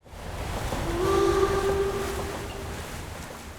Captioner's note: train horn blows